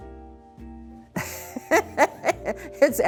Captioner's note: laughing